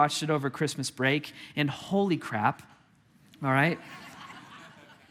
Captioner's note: congregation laughing